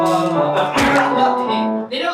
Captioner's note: choke